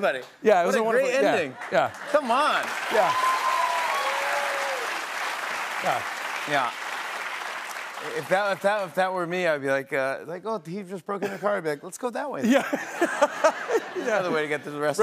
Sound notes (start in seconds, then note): 1.5 cheers and applause